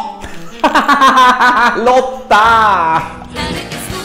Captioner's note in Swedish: skrattar